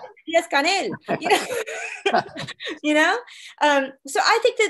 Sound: laughing

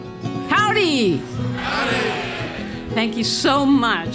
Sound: crowd

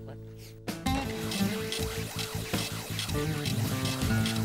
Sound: machine spinning

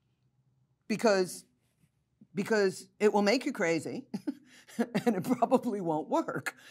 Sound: laughs

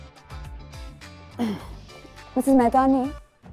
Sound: clears throat

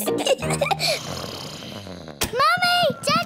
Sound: both giggling; snoring

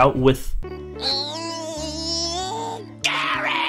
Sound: Spongebob grunting

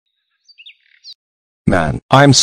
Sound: birds chirping

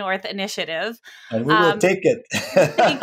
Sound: laughs

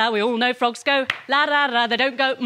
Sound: claps

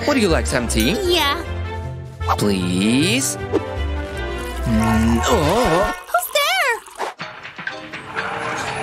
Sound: making happy sounds

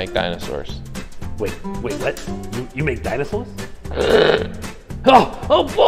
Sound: animal grunt

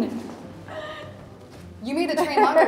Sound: Sydney gasps; laughs

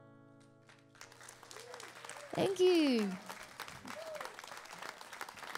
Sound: audience cheering

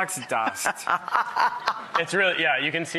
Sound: laughing

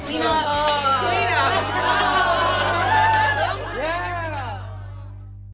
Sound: cheering

